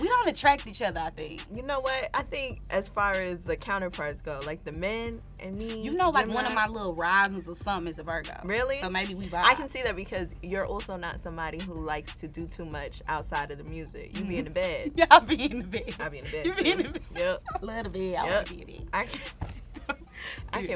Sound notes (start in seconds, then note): 14.0 laughs